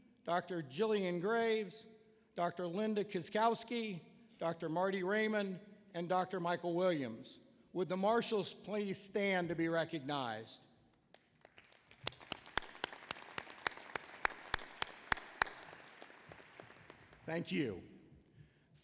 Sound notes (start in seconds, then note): 11.0 applause